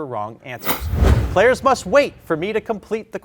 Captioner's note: slide whooshing